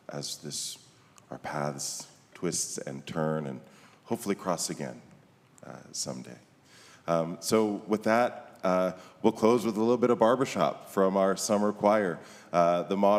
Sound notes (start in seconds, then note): none